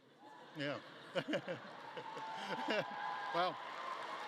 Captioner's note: audience cheering and clapping